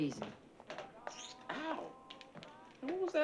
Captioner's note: sucking teeth